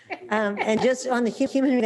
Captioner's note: they laugh